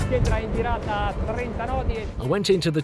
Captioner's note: speaks Italian